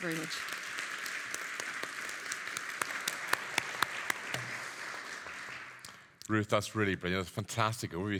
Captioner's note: audience applauding